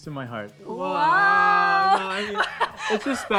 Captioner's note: laughs